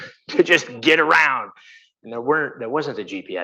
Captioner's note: laughing